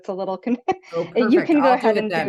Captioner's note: chuckles